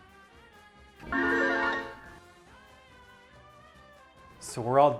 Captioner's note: magical sound